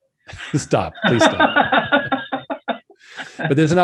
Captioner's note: laughs